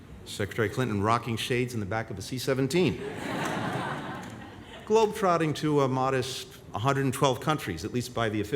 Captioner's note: laughter